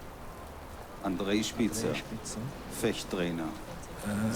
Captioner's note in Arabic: الصوت المنطوق باللغة الألمانية